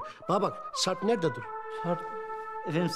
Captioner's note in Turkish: none